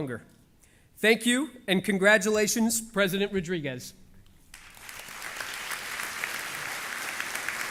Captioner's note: applause